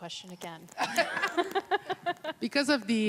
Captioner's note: laughing